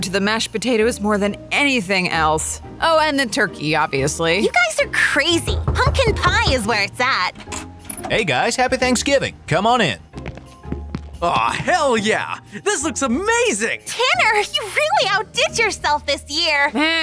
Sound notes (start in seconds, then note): 5.3 Roach knocking